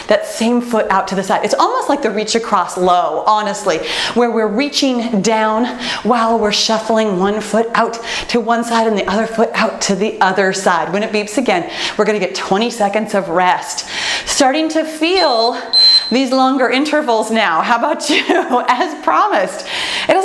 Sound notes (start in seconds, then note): 15.1 timer beeps; 18.1 laughs